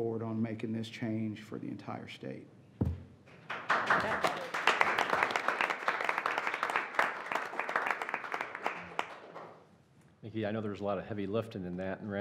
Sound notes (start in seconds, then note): 3.4 audience applauding